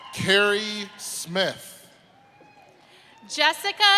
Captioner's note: applause